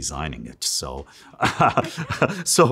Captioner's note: chuckle